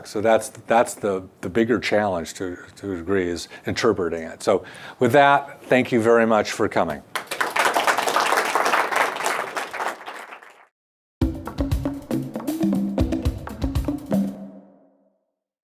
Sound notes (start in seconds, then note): 7.1 audience applauds; 11.2 drum music